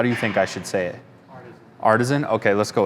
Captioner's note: male Voice